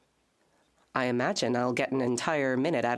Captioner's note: speaking French